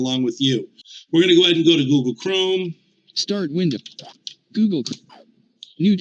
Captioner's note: screen reader voice